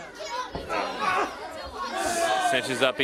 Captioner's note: crowd chatter